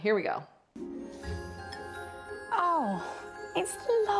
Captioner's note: bells chime musically